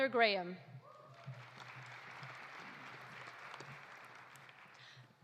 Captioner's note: audience applauding